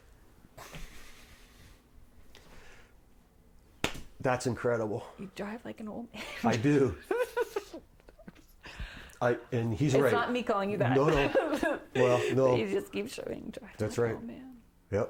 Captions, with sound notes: (Slapping sound) That's incredible! You drive like an old man? I do. And he's right. It's not me calling you that. (laughing) No, No. But he does keep showing me driving like an old man.